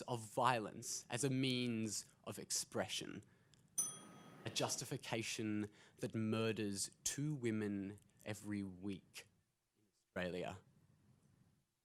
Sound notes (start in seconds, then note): 3.8 bell rings